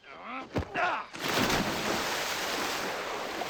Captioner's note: splash